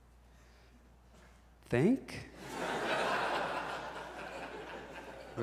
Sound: audience laughs

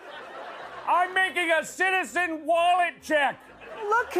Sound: laughter; laughter; normal voice

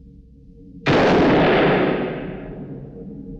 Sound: gunshot

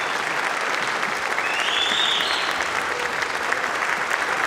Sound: applause

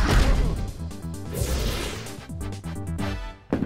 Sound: whoosh

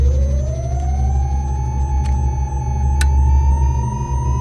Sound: whirring

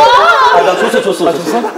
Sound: getting too exhausted from Laughing

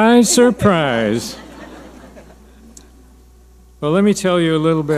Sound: audience laughing

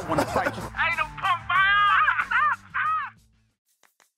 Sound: shouting

